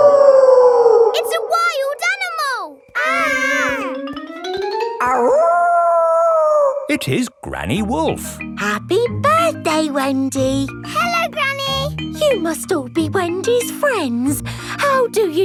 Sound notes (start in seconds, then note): 0.0 wolf howling loudly; 2.9 kids yelling; 5.1 howling